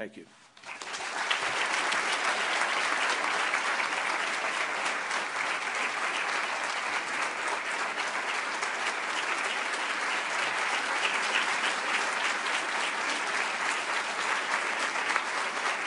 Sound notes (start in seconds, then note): 4.6 applause